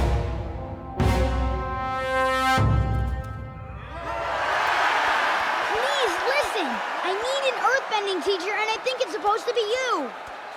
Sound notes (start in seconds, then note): 3.8 cheering